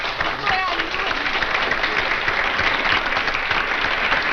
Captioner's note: audience applauds